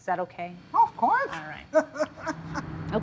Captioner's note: laughs